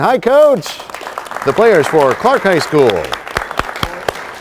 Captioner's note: applause